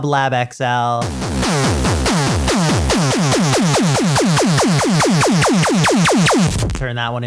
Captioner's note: intense laser pulsing